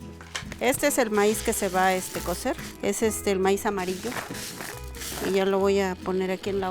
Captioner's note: speaking in foreign language